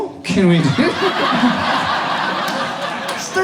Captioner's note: audience laughs